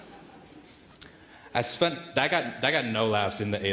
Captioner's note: audience laughing